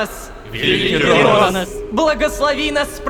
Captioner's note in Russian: Толпа